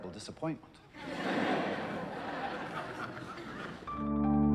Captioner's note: more laughter